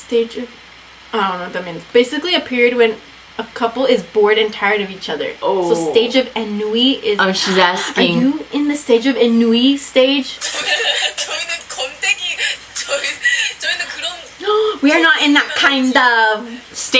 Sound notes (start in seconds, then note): 7.4 gasps; 14.6 gasps